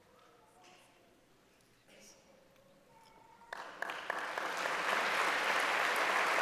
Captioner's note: applause